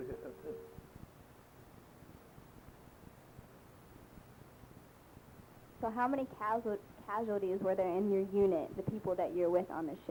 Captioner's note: pause